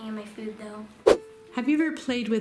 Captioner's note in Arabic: سووش